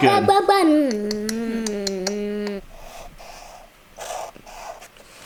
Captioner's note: babbling and clicking